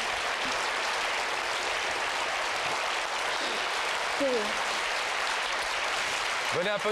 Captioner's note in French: applaudissements